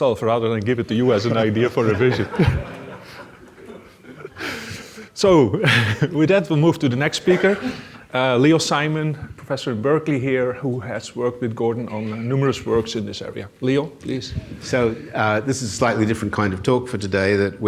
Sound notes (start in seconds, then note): 1.2 audience laughs